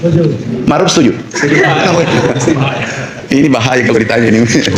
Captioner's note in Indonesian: tertawa